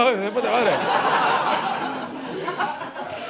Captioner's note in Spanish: Risas